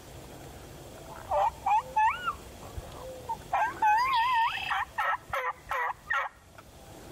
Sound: imitates gobbling; turkeys gobbling lightly

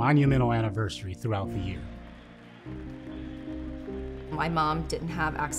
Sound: crowd cheering

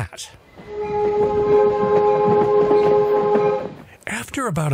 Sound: train horn

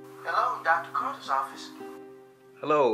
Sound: voiceover

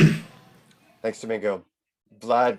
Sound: clears throat

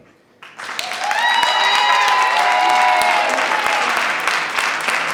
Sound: clapping and cheering

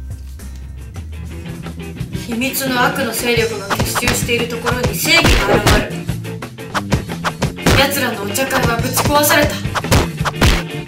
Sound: speaking foreign language

